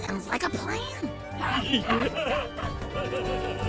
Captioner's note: both laughing